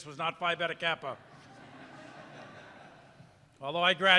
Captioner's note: audience laughing